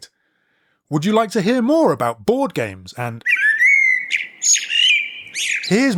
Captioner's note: bird noise